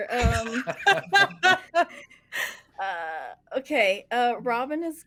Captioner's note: everyone laughs